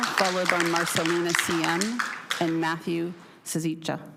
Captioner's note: cheering/Applause; applause